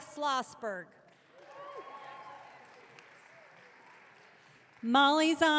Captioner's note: audience cheering